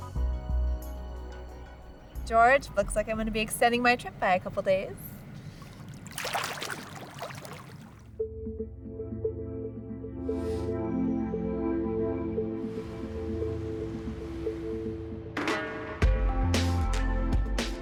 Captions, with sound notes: - George, looks like I'm going to be extending my trip by a couple of days. ( water splashing) (gentle music)